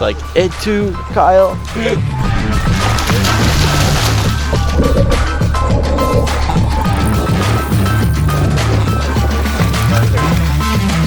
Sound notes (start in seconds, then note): 1.9 splashing